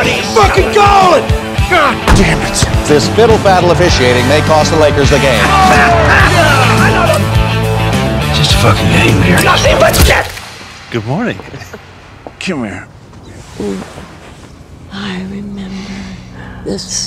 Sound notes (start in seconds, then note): 5.8 laughs